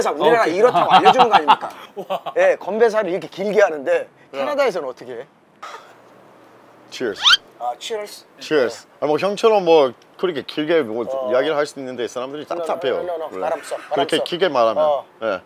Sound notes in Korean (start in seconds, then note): 5.6 한숨